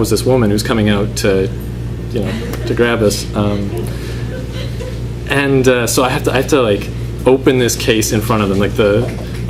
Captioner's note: laughter